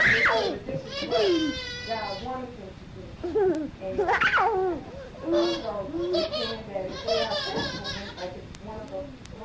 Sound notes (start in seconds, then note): 0.3 woman laughing; 3.1 laughter